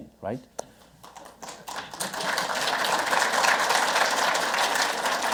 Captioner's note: audience clapping